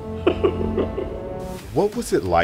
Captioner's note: chuckles